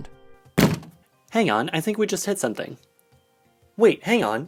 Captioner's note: crash